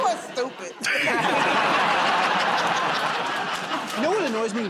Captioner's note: laughter and applause